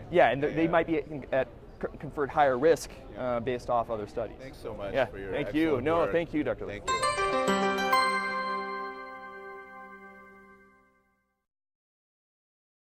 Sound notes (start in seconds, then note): 6.8 chimes